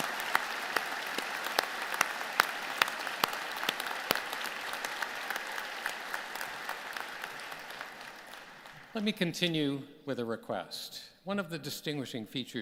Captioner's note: applause